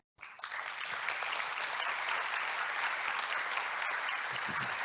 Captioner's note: audience applauding